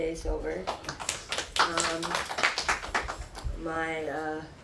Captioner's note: people clapping